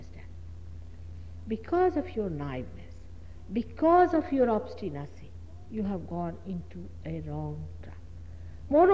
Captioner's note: noise in mp3